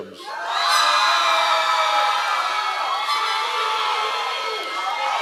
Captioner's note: members of the audience cheering